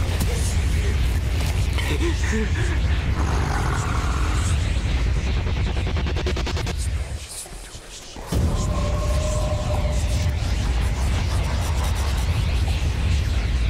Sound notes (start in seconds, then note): 3.1 snarling; 5.3 eerie reverberations; 7.0 haunted whispers echoing; 8.2 dramatic music